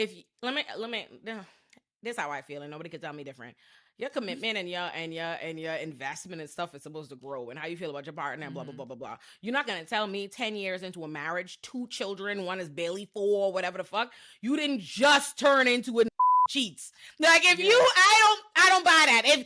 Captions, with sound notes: if you, let me, this is how I feel and nobody could tell me different. Your commitment and your investment and stuff is supposed to grow and how you feel about your partner and blah, blah, blah, blah, blah. You're not gonna tell me 10 years into a marriage, two children, one is barely four, whatever the fuck. You didn't just turn into a (beep) cheats. Like if you, I don't buy that.